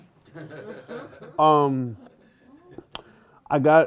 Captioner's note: laughter